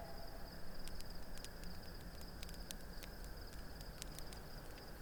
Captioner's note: fire crackling